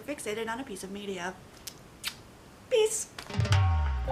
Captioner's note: kiss